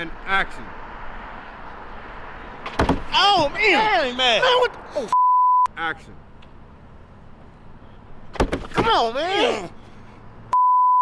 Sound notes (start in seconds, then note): 2.6 thuds loudly; 5.1 beeps; 8.3 thuds loudly; 10.5 beeps